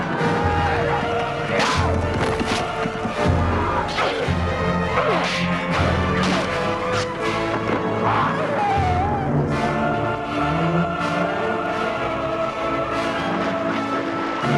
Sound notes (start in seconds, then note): 4.1 both grunting